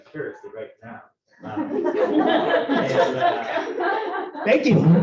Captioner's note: laughter